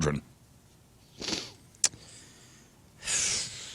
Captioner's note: sighs